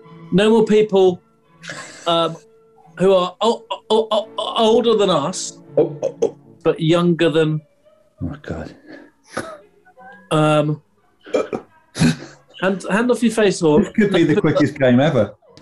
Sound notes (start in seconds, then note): 1.6 sniggering; 3.7 stammers; 9.3 chuckling; 11.1 sniggering